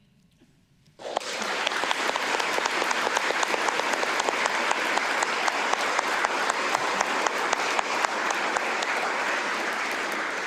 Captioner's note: applause